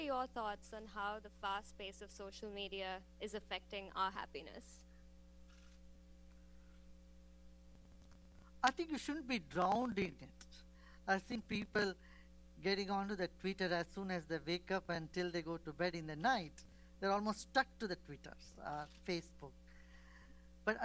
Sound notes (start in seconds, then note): none